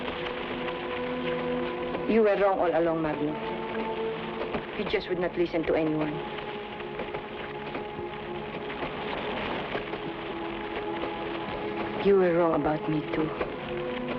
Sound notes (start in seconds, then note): 0.5 suspenseful music; 8.9 flames crackle